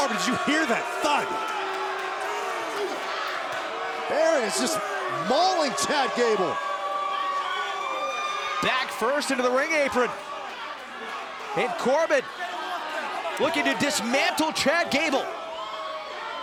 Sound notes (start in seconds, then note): 4.7 crowd cheering; 10.2 crowd chatter; 15.0 crowd cheering